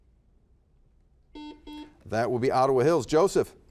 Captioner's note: buzzer buzzes